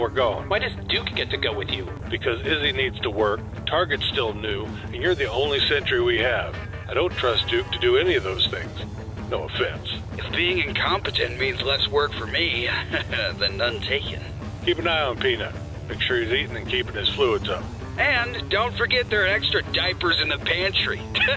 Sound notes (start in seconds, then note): 12.5 chuckles